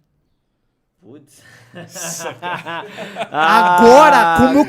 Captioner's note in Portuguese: risos